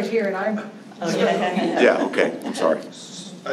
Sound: laughter

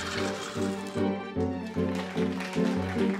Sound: applause

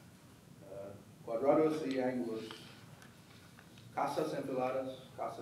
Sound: speaking foreign language

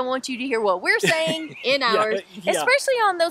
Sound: laughs

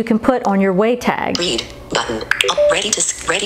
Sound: computerized Voice

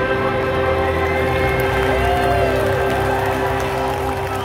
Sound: cheering

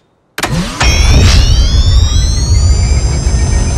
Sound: humming loudly

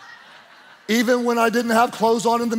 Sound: congregation laughing

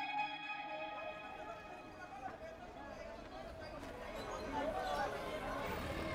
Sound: crowd noise; traffic

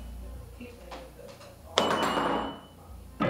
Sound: metal clatters; piano note blares

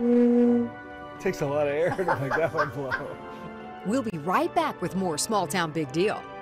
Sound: laughter

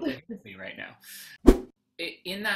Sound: whoosh

